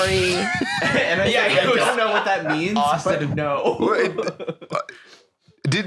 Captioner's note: laughs